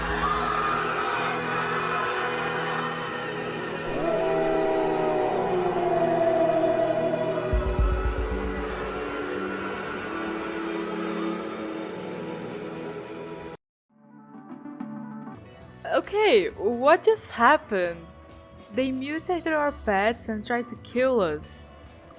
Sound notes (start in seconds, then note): 3.8 roaar; 4.1 screams